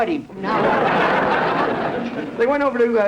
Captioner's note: audience laughter